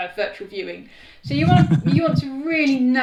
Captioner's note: laughs